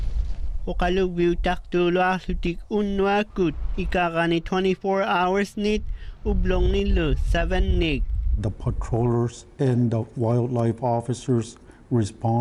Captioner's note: speaking inuktutut